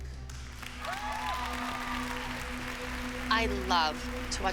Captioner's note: cheering and applause